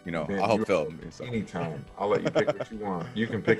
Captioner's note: laugh